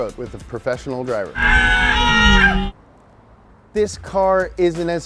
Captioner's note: both screaming